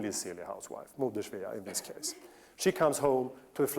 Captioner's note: non-english